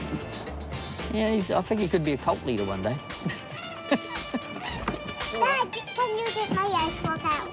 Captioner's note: laughs